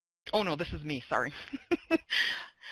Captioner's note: laughs